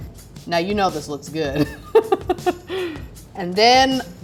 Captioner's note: laughing